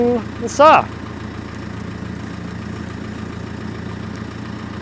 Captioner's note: crane vehicle rumbling